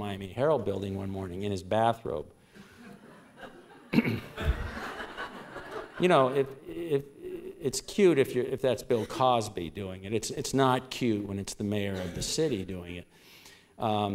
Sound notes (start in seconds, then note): 2.6 laughter